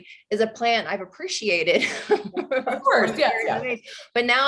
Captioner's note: both laugh